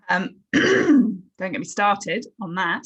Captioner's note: clears throat